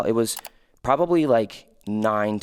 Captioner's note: computer mouse clicking